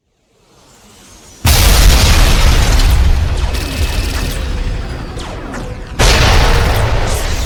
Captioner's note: explosions booming; cannons blasting